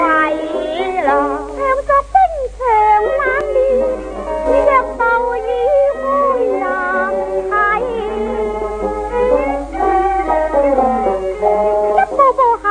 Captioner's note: cuckoo